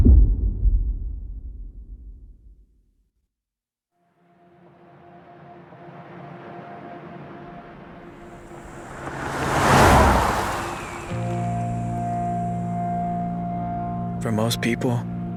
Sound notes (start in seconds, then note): 0.0 dramatic sound; 10.5 car zooming